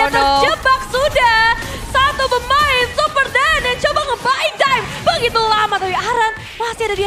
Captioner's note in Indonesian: tertawa